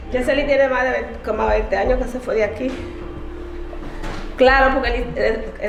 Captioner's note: speaking in Spanish